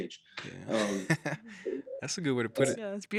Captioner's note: chuckles